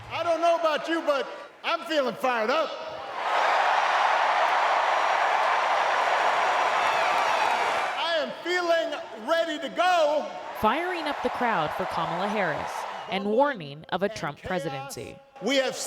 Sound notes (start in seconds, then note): 4.6 cheering; 5.6 applause